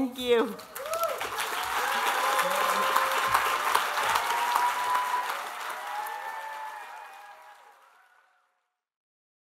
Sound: applause

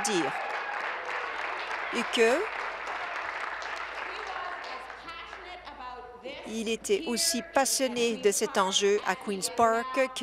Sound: applause

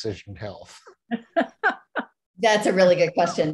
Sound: laughs

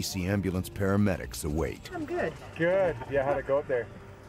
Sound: voiceover

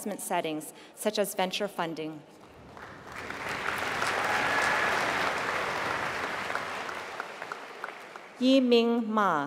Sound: applause

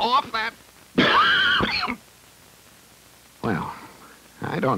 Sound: coughs

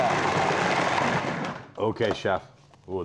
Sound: processor stops

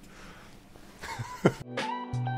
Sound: laughing; soft music

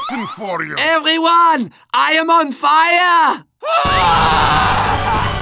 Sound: dying Scream

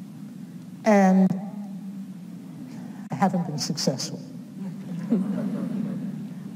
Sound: audience laughs

